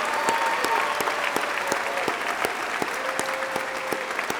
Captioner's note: applause